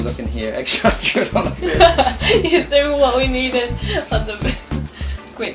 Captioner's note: laughing